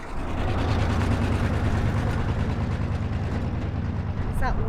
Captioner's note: car engine humming